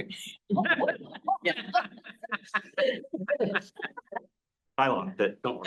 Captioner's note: laughing